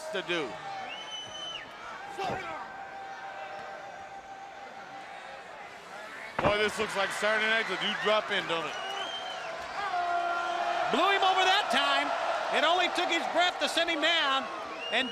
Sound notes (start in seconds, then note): 1.6 crowd chatter; 9.5 crowd cheering